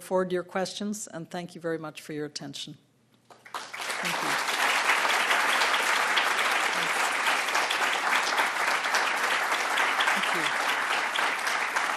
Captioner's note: applause